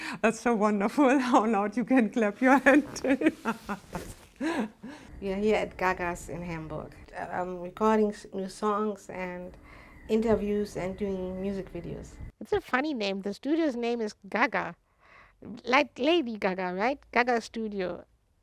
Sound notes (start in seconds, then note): 5.7 laughs